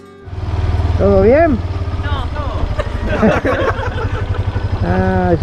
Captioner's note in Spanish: risas